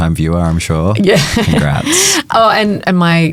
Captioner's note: chuckles